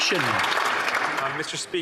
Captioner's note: some Applause